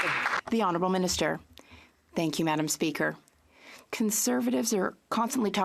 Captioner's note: some Applause